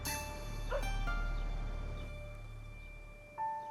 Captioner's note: dog barking